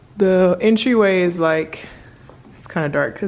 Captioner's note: none